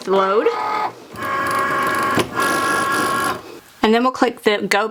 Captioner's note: machine whirring